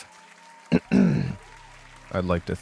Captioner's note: audience cheering